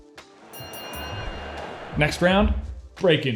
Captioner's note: boxing bell rings